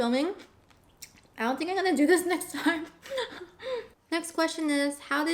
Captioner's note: laughs